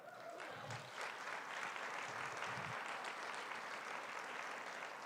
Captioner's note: applause